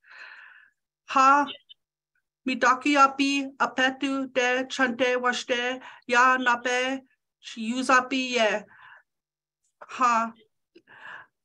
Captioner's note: speaking in Foreign Langague